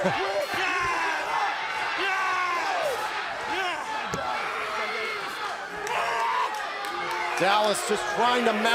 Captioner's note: crowd cheering